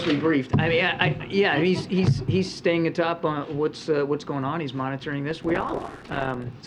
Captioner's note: laughter